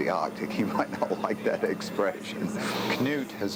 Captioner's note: laughs